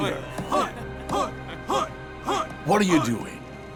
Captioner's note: cheering